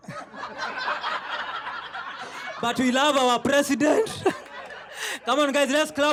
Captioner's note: laughter